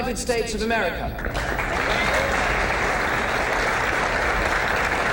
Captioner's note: crowd applauds